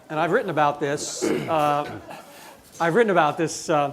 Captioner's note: audience chuckling